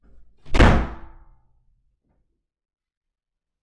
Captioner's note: door slams